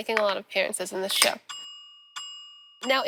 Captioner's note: ding